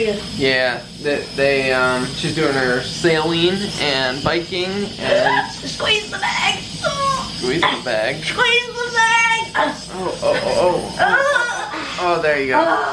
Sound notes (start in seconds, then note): 5.6 gasps; 11.0 gasping